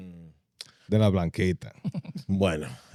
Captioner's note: speaking In Foreign Language